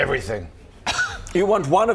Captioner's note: scoff